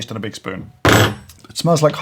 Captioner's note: spoon clanking